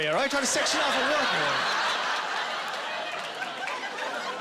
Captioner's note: laughing